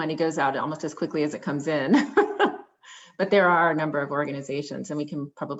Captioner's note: laughter